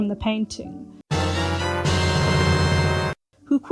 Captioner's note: Zelda ‘get item’ noise